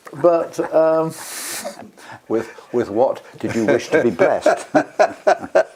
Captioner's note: laugh